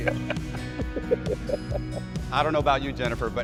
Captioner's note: laughter